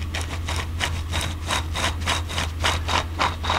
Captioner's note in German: schabende Geräusche